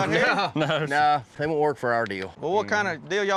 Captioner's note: chuckling